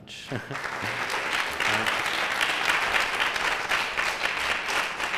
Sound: applause

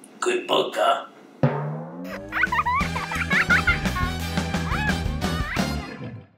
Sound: boing, sound of child giggling

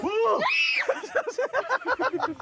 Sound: Shiratori scream

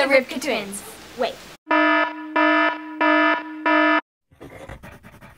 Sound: alarm

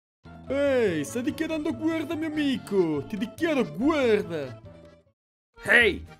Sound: Russian accent; German accent

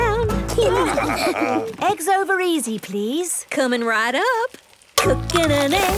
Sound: laughing

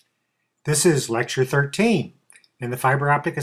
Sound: voiceover

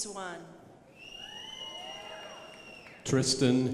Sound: crowd applauding

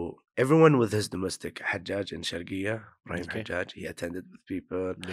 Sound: in Arabic

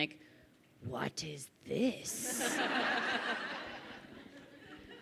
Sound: crowd laughing

